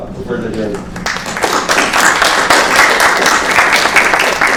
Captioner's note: applause